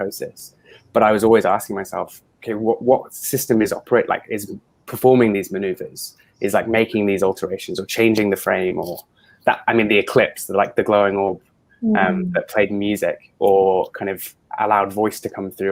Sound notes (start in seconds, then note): none